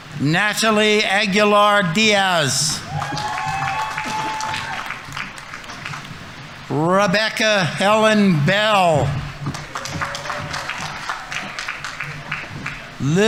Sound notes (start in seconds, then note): 2.7 audience applauding; 3.1 audience members cheering; 8.4 audience members cheering; 8.7 audience applauding